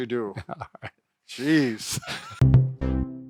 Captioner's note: chuckling